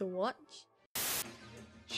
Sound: static

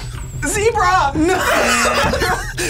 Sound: laughs

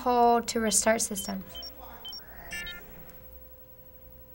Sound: beeping

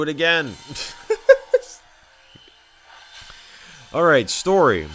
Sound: engine revving sound; laughing

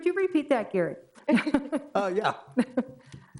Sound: laughs

